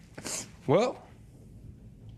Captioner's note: sniffles